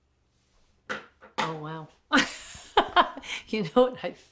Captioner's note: laughs